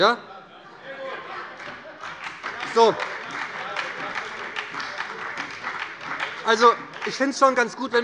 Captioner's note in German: Beifall bei der SPD, der LINKEN und der FDP